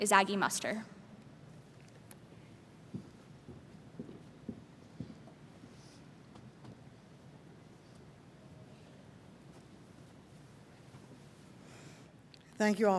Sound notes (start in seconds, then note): 5.8 silence